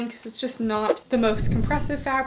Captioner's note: screen whooshing